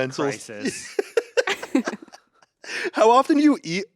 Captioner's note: everyone laughs